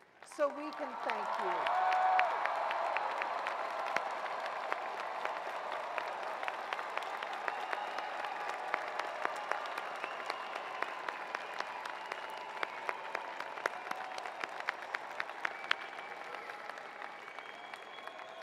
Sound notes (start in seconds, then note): 6.8 cheers and applause